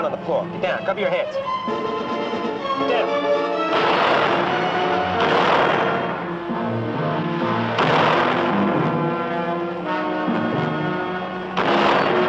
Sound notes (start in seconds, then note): 3.7 dramatic music; 5.5 gunshots firing